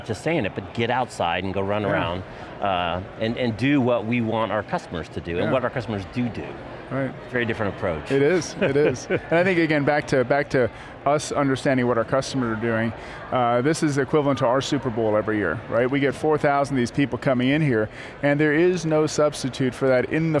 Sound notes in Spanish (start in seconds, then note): 8.2 risas